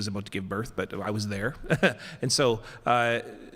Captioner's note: laughs